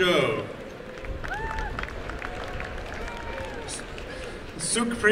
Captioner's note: applause and cheering